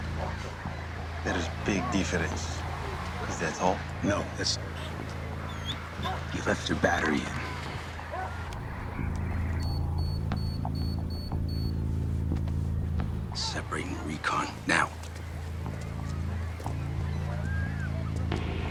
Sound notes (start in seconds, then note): 8.5 beeping